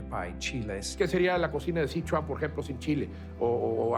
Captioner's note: in Spanish